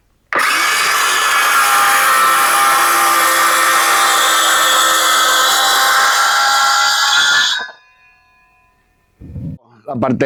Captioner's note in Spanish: grito